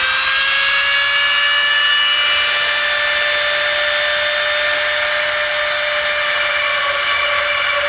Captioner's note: Drilling wine bottle - Dremel Drill noise in background